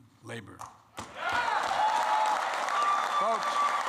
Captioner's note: applause